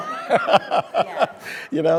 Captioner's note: speaker laughing